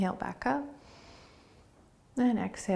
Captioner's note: inhaling